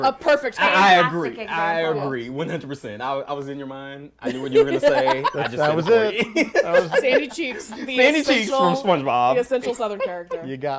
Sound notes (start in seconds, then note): 6.2 laughing; 9.6 laughs